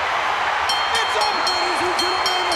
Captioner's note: crowd cheering; bell chiming